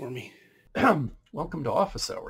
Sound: throat clearing

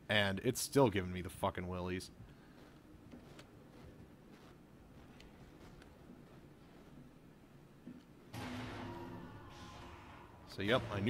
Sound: loud banging

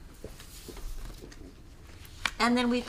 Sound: paper shuffling

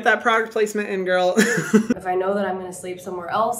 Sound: Hyram laughing

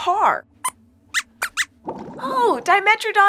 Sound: squeaks squeaks

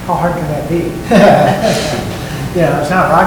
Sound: laughing

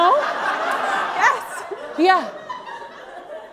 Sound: audience laughs

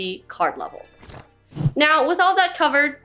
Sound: jingling sound

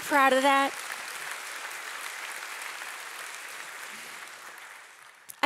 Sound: audience applauding

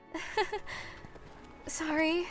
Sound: nervous laugh

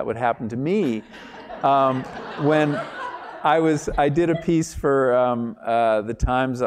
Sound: laugh

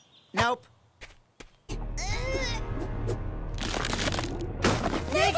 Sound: Nikki struggling, rock breaking

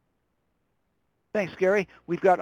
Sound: voiceover

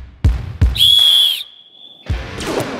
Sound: whistle~

